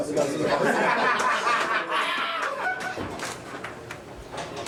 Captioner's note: all laughing